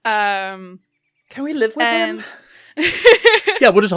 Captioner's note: laughter